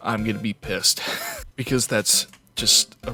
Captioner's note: wheeze